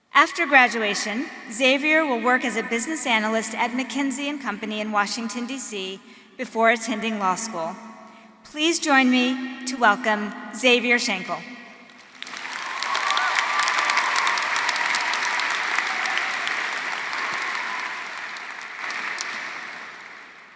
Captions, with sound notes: After graduation, Xavier will work as a business analyst at McKinsey and Company in Washington DC before attending law school. Please join me to welcome Xavier Shankle. (audience cheering) (audience applauding)